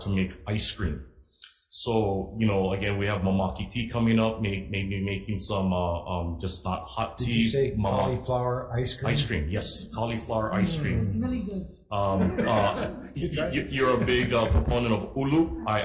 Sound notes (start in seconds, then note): 2.7 speaks in foreign language; 12.0 laughs